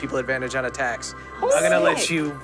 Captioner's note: cheers